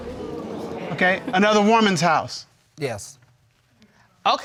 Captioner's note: audience exclaiming